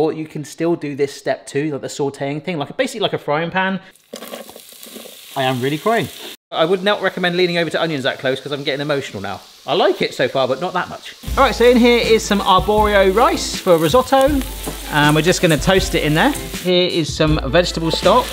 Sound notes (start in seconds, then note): 4.0 onions clattering